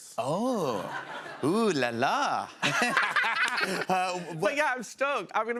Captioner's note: laughter